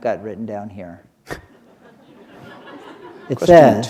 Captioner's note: chuckle